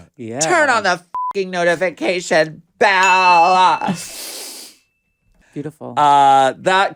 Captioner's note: beep